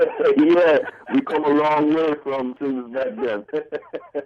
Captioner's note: laughing…